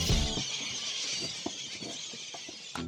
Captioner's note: birds screeching, feeding